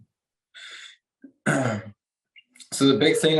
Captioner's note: clears throat